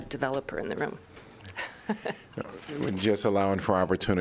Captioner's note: laughter